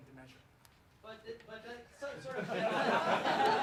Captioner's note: laughs